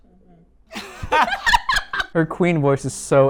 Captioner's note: laughing